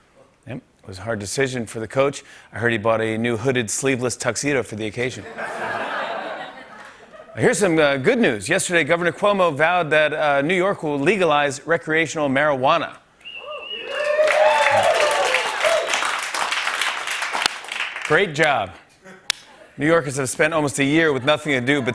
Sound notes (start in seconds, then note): 5.2 laughter; 13.4 cheers and applause